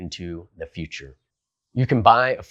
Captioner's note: beat